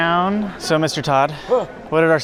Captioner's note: gasps